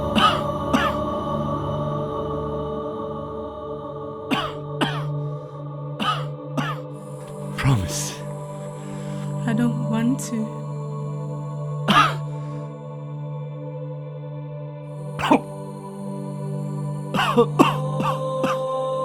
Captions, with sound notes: (coughing) - Promise. - I don't want to. (coughing)